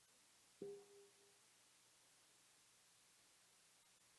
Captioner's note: bell dinging